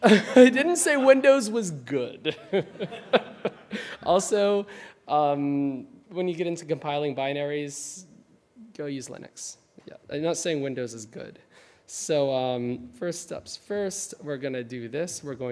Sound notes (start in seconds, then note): 2.3 laughing; 2.4 audience laughing